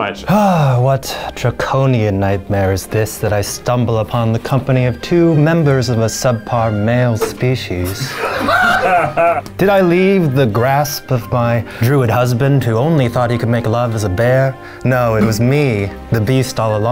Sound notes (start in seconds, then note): 7.8 laughing